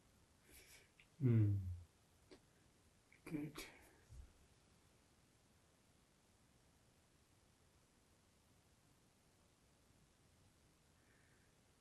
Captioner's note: pauses 12 seconds